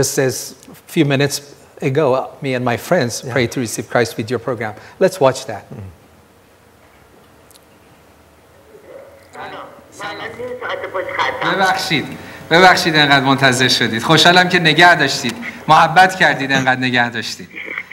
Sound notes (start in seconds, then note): 9.8 speaking in foreign language; 12.1 speaking foreign language